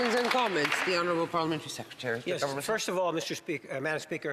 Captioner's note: some Applause